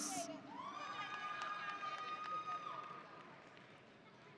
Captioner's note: audience cheering